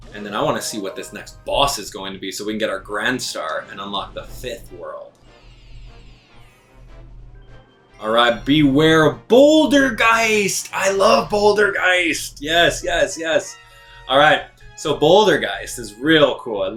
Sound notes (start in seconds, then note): 5.2 gaming sounds; 5.9 instrumental music